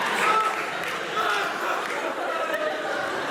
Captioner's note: sobs